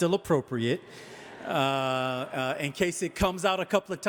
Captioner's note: audience laughing